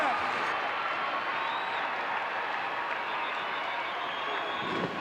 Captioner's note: audience cheering